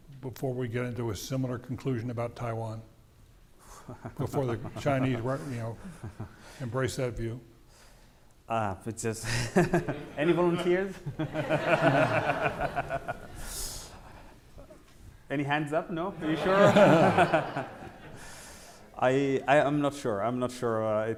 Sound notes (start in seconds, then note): 11.2 audience laughing